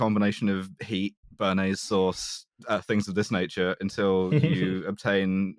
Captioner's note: chuckles